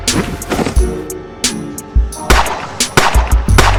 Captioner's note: bodies fall; gun shoots